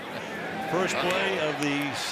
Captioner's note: laughs